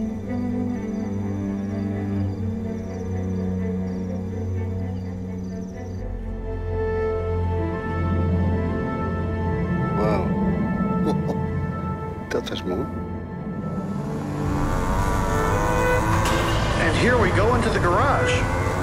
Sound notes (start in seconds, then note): 10.9 laughs